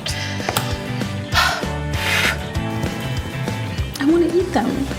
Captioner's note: sighs